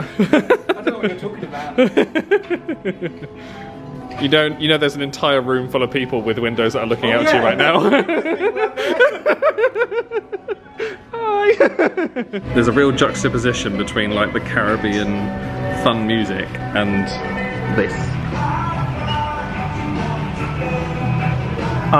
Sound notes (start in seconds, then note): 1.8 laughs; 11.6 laughs